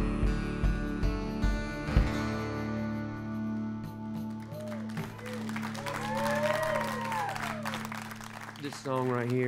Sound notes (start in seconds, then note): 4.3 applause